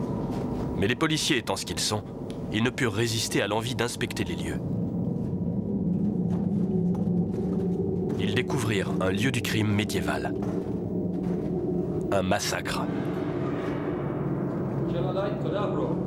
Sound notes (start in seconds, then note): 5.3 wind howling; 14.1 speaking Romanian